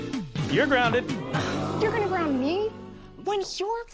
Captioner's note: audience: Oooooo!